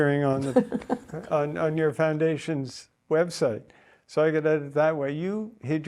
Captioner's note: Fox starts laughing